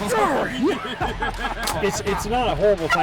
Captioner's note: man bellows